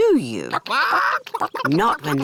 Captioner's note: chickens chatter